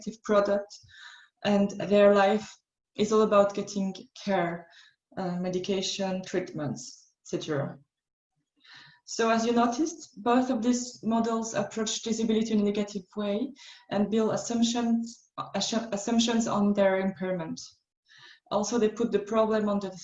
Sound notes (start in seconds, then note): none